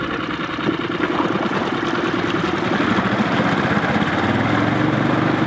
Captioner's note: boat engine whirring